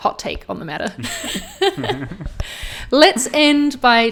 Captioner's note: all laugh